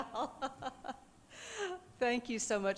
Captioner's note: laughing